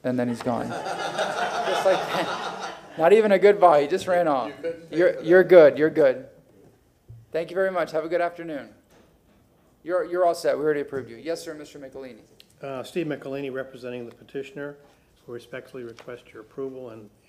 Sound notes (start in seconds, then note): 4.4 laughter